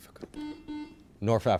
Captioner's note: buzzer chimes